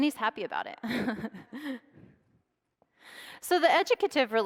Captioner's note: laughs